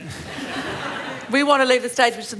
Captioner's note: laughter